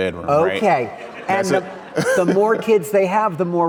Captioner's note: audience laughing